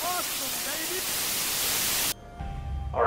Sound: Static

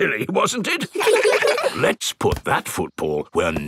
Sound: in normal voice; kids laugh

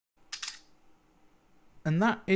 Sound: camera shutter sound

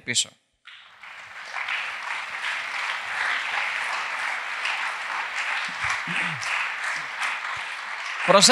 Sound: applause

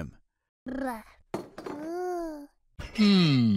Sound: cute baby sounds

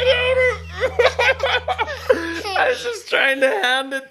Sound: both laugh

